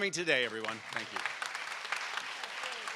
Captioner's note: audience applauds